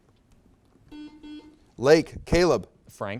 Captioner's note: buzzer beeps